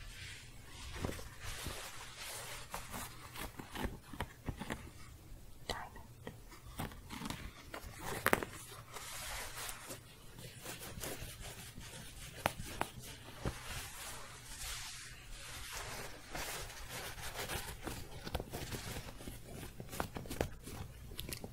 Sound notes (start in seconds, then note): 0.6 scratching; 6.8 more intense scratching